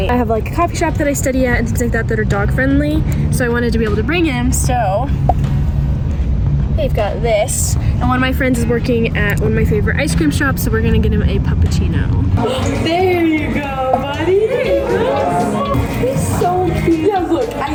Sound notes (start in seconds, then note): 13.5 background chatting